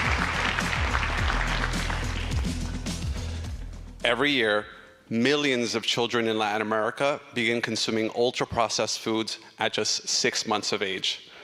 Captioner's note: applause